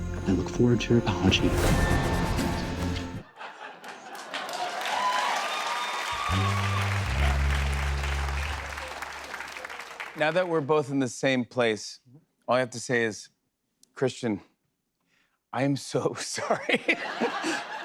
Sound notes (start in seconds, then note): 3.8 cheers and applause; 6.3 sad tuba plays